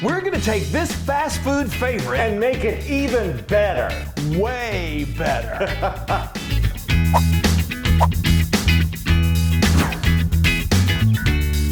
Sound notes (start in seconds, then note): 5.4 laughs; 6.6 upbeat music